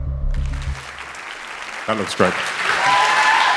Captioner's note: applause